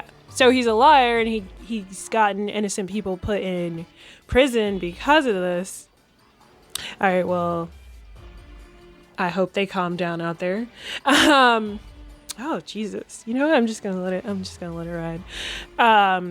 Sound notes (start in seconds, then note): 10.9 laughs